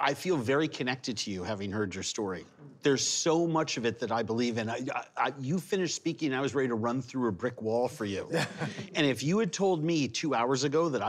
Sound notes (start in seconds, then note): 8.2 laughter